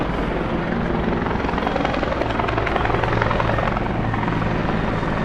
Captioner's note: helicopter whirs